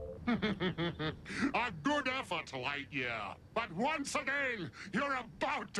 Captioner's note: laughing